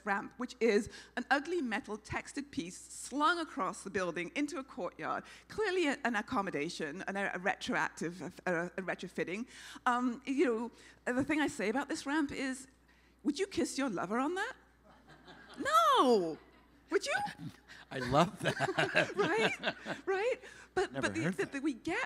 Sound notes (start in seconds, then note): 14.9 laughing; 17.8 laughing